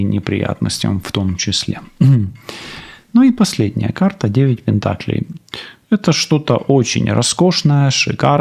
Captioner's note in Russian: откашливается